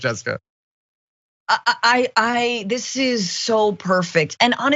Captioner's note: laugh